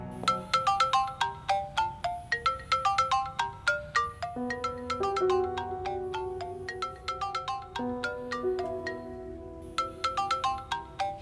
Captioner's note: dad-mobile ringing